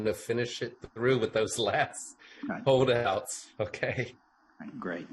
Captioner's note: laughs